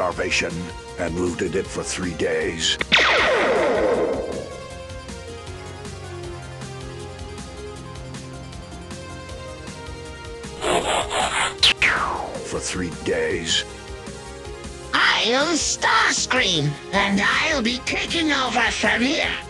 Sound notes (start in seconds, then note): 10.6 transforming noise; 10.6 pew